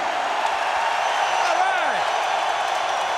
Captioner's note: crowd cheering